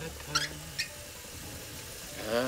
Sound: <i> humming</i>

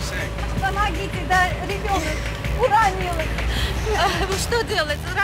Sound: speaking Russian

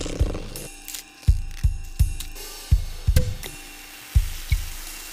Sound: dragging bottle; popping open bottle; fizzing

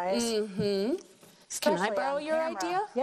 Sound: humming affirmatively

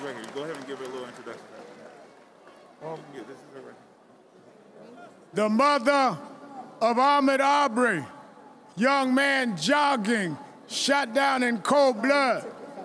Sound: applause

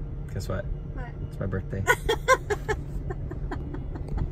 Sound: woman laughs

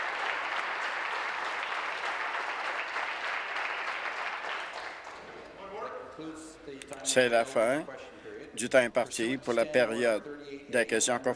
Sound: applause

